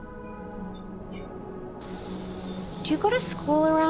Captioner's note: bicycle wheel squeaks